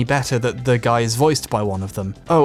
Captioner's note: none